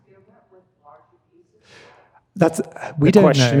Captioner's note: speaks faintly